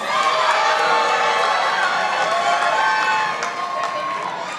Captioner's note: participants applauding